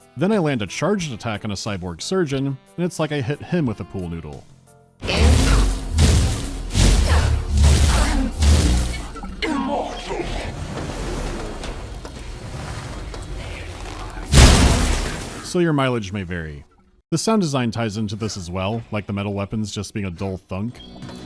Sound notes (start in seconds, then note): 14.3 bdoosh